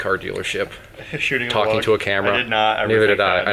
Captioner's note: laughs